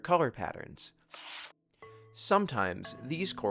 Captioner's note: page rustles; gentle music continues